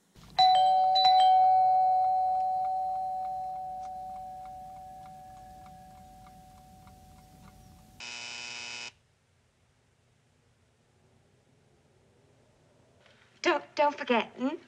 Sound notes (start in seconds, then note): 0.2 door bell chime; 7.9 door buzzer